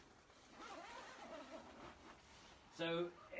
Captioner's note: zipper zips